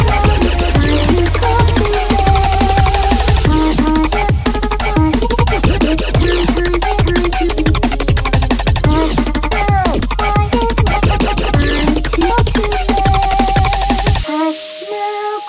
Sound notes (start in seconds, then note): 3.3 Vocals become chopped and screwed using Gross Beat